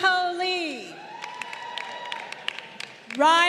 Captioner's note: crowd cheering